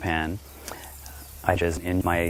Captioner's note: another audible breath